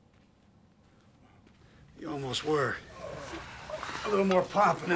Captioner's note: groans